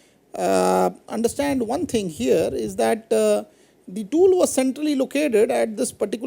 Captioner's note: cutting